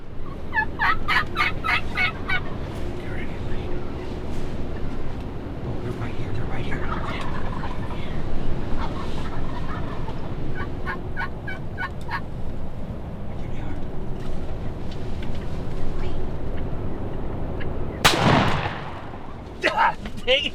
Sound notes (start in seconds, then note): 0.5 turkey call squawking; 6.7 turkeys cawing; 9.6 turkey call squawking; 18.0 gun firing